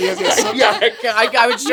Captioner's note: all laughing